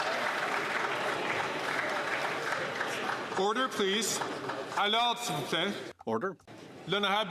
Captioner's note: some Applause